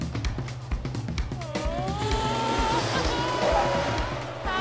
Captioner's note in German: stöhnen